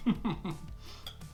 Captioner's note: laughing